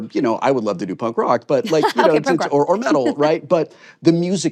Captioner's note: chuckles